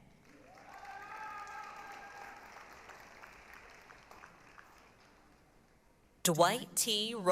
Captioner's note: applause, cheering